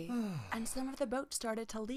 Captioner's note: villagers sighing